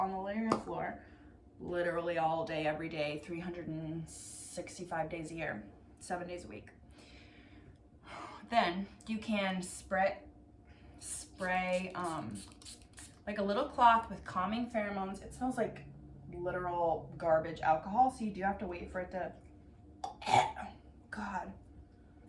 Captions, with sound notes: on the living room floor literally all day every day 365 days a year seven days a week then you can spray spray um like a little cloth with calming pheromones it smells like literal garbage alcohol so you do have to wait for it to *gags* oh God